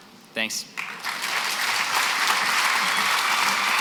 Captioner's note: applause